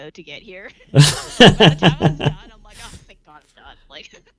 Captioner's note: laughing